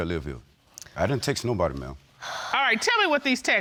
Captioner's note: sighs